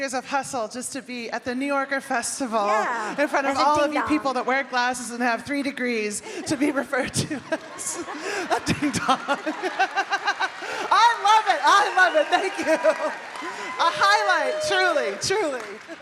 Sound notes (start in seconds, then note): 9.5 laughing; 10.4 audience cheering